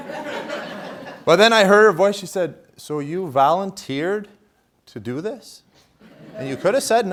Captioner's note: laughter